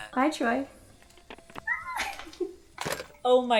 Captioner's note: giggles